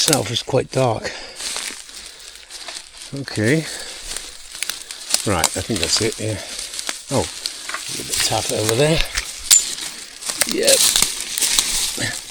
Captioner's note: sniggers